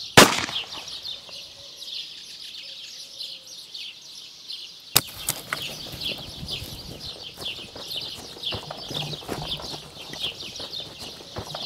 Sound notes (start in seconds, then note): 0.1 birds chirping; 0.1 gunshot popping; 4.8 birds chirping; 4.8 gun clattering